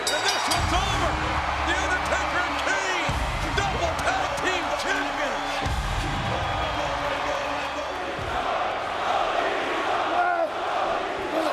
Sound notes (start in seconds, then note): 6.9 crowd chanting